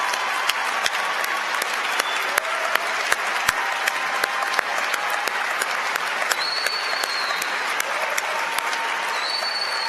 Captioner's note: applause